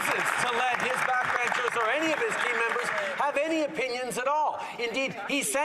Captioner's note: some Applause